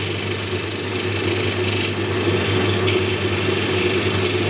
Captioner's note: machine whirring